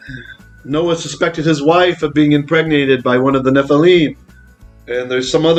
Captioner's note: Hebrew